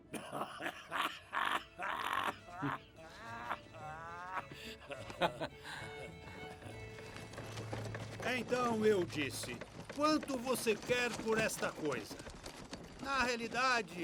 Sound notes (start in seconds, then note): 7.6 hoofbeats